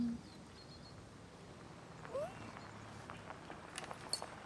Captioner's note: tires crunching gravel; Millie whimpers